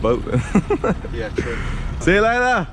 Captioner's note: laughs